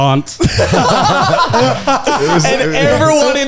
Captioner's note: all laugh